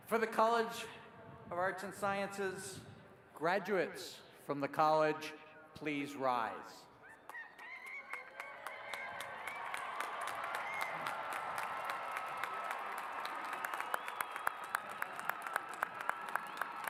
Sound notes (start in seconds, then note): 8.6 cheers and applause